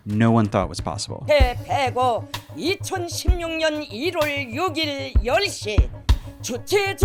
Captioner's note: reporter speaking in foreign language; tense music